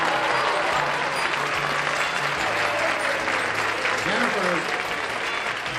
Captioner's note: theme music; applause